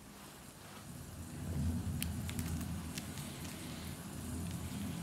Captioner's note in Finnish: Thunderstorm sound in the background